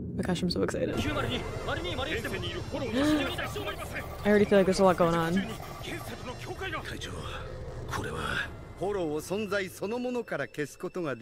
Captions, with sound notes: My gosh, I'm so excited. (speaking in foreign language) I already feel like there's a lot going on (speaking in foreign language)